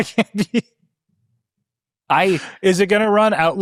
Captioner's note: laughing